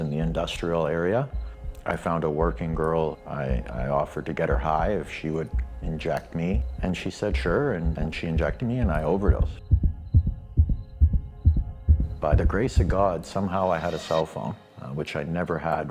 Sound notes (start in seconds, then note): 10.1 rapid heart beat